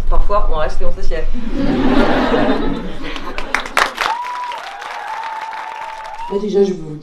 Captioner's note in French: rires et applaudissements